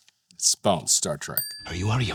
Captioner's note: tone dings